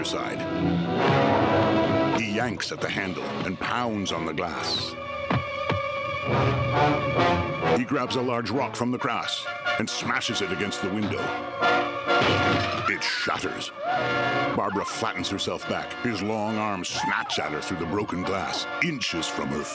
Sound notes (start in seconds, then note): 12.2 glass shattering; 13.6 screaming